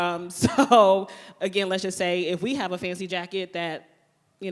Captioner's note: laughs